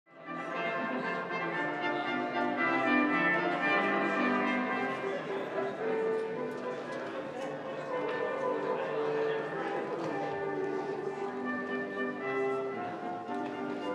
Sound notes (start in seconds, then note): 1.0 overlapping chattering; 1.0 upbeat music